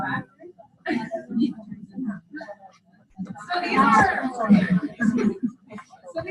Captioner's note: overlapping chatter